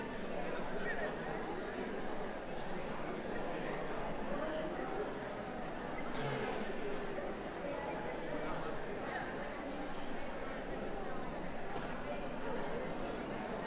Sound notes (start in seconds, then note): 8.2 background conversations